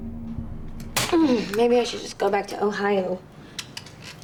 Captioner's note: grunts